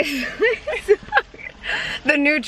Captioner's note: laughing